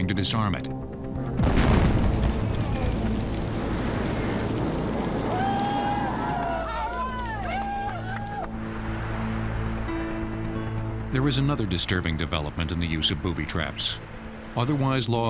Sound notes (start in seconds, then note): 3.9 explosion; 4.8 people cheering